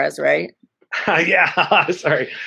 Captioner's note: chuckles